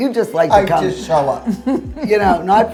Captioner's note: laughs